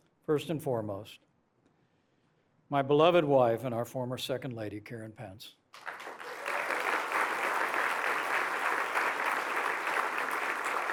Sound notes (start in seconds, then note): 5.7 applause